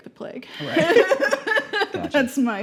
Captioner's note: laughing